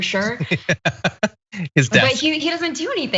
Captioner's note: laugh